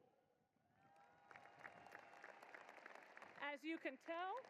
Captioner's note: applause